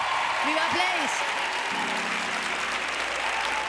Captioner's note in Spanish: Aplausos y vítores